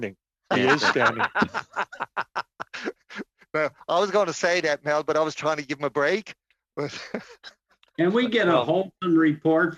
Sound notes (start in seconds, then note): 6.8 laughter